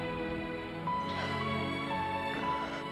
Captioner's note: gasping